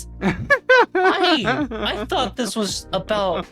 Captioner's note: laughing